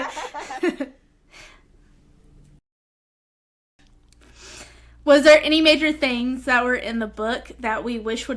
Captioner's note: laughter